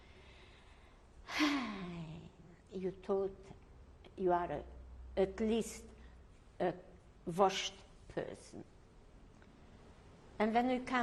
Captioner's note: sighs